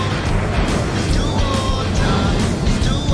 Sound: engines roaring

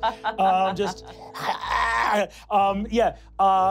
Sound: choking

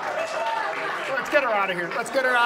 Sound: audience laughs; audience applauds

